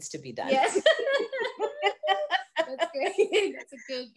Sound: both laughing

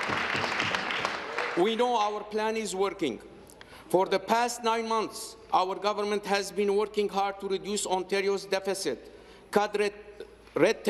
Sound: applause

